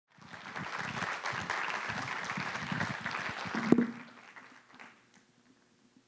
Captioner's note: applause